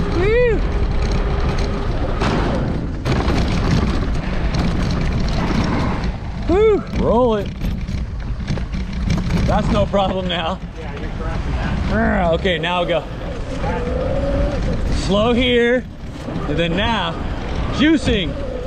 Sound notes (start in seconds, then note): 11.6 growls